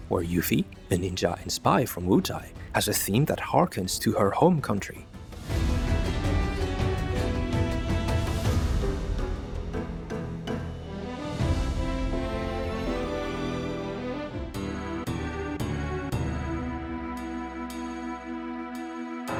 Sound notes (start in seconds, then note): none